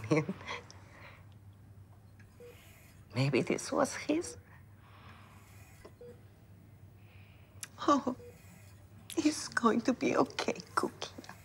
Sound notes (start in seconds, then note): 7.6 crying